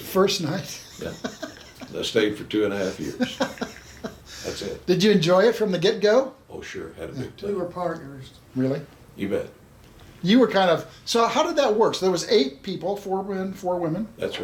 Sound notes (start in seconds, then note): 2.8 chuckles